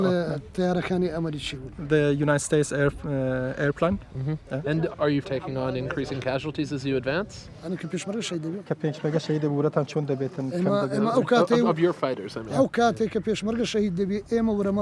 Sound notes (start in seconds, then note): 6.4 both speaking foreign language; 12.0 speaking foreign language